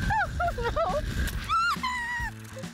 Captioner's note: shrieking